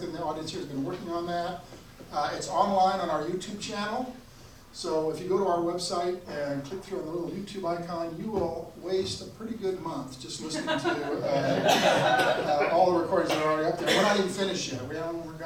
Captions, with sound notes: in the audience here has been working on that. It's online on our YouTube channel. So if you go to our website and click through our little YouTube icon, you will waste a pretty good month, just listening to (audience laughs) all the recordings that are already up there, and we're not even finished yet.